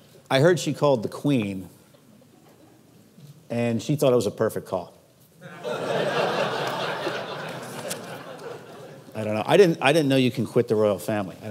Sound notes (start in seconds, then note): 5.4 audience laughs